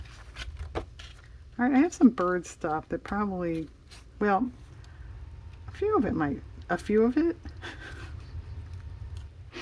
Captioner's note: laughs